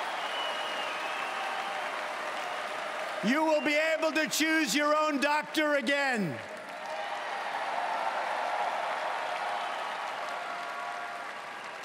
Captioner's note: cheering and Applause